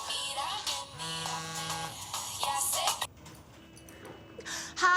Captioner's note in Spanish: Suena un celular